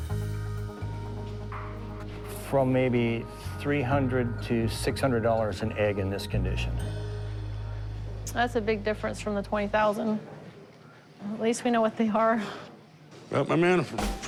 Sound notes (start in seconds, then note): none